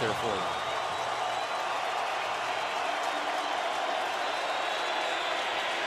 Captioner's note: cheering